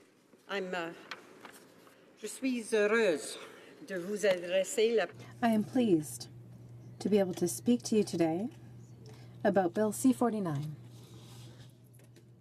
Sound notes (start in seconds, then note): 6.4 speaking French